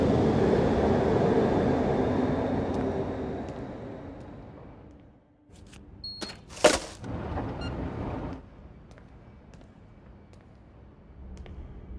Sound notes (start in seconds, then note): 6.0 beep; 6.6 garbage hitting can; 7.4 phone beeping; 8.8 footsteps